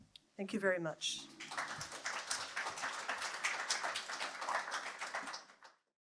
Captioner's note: applause